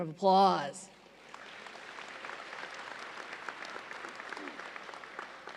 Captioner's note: audience applauds